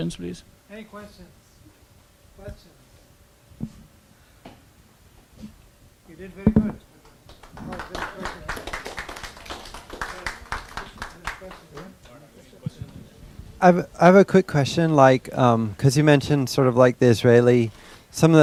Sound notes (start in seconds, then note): 3.7 audience applause